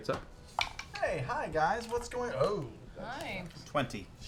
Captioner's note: none